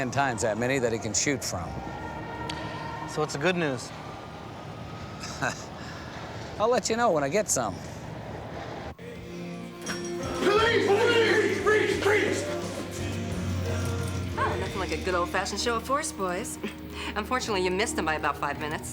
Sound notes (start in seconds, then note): 5.2 chuckles; 12.5 rock music playing